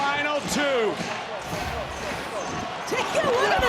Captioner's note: audience cheering